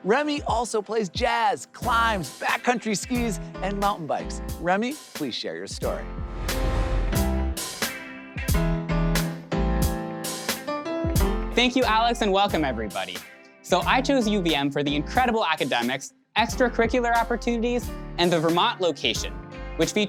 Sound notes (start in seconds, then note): 6.2 air whooshes; 7.3 upbeat music